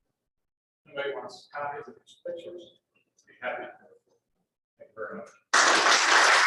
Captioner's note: applause